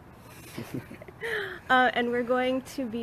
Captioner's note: giggles